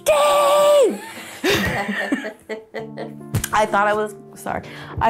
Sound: laughs

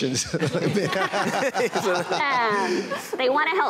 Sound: laughter

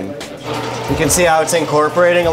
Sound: grinder whirring

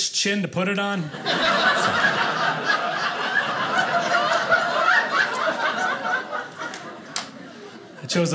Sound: audience laughing

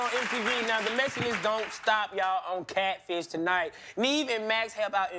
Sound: applause

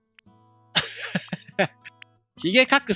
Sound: giggle

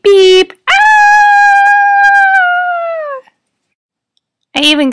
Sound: screaming

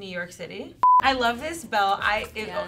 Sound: beeping

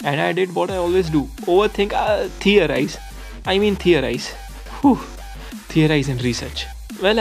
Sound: phew

